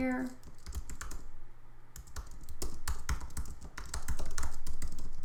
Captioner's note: keyboard typing